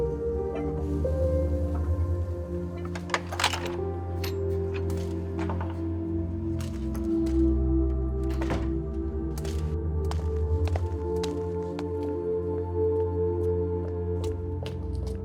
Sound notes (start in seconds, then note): 2.6 latch clicks; 8.3 door clicks shut